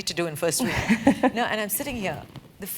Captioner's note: laugh